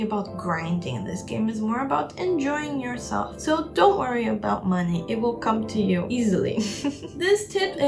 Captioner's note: chuckle